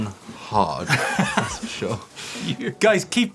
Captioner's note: laughter